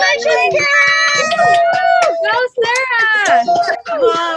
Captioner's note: continous Cheers